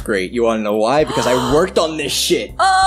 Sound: gasp

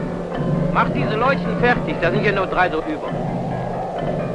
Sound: German spoken audio

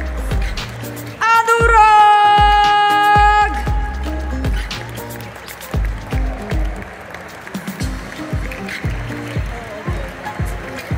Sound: applause; applause

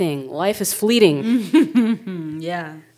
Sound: chuckling

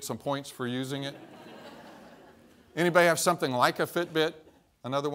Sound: laughter

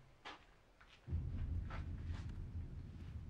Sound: low rumble

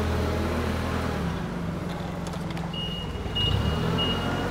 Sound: motor humming, beeping

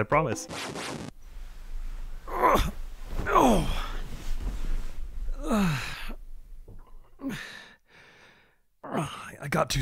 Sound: leans up in bed and groans in pain

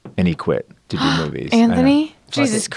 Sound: gasp

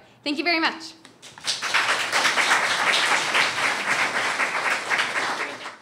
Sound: audience applauds

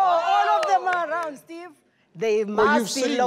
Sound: claps

